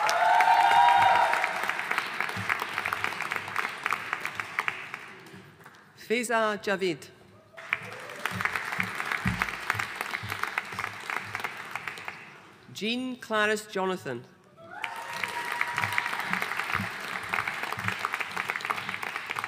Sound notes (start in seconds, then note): 0.0 audience cheering and applauding; 7.5 audience applauding; 14.6 audience cheering and applauding